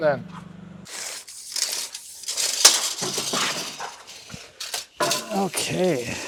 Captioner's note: measuring tape scraping